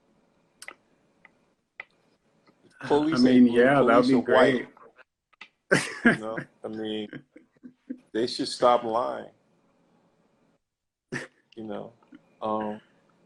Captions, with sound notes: I mean yeah, that would be great Police aint blue, they're white (laughs) You know, I mean They should stop lying (laughs) You know, umm